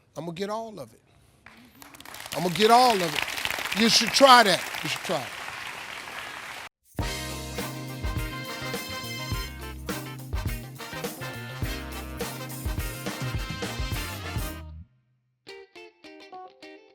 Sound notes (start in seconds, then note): 1.5 audience applauding